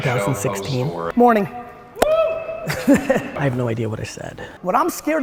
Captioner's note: solitary cheer